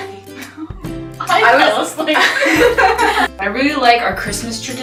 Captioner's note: laughing